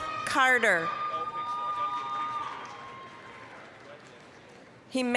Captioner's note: applause, cheering